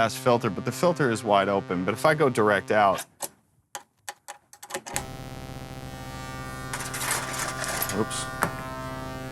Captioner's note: distorted tones